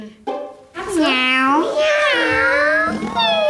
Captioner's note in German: Sie imitieren Miauen